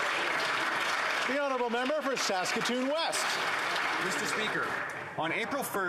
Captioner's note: applause